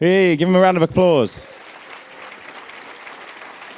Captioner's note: applause